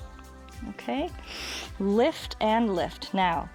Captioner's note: inhales